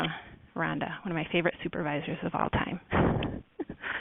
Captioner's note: laughs